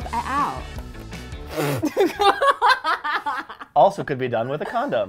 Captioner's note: laughs